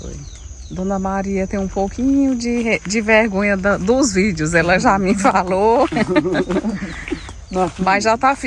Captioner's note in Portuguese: risadas